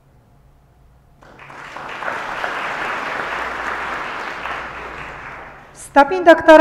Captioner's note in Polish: oklaski